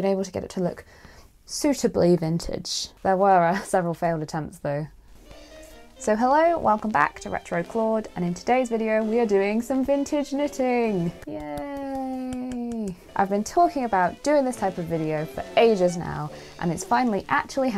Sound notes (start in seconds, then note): 11.1 quiet clapping